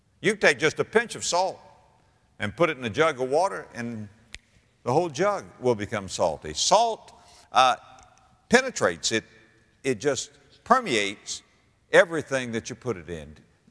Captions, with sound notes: YOU CAN TAKE JUST A PINCH OF SALT AND PUT IT IN A JUG OF WATER AND [SNAPS FINGERS] THE WHOLE JUG WILL BECOME SALTY. SALT PENETRATES. IT JUST PERMEATES EVERYTHING THAT YOU PUT IT IN.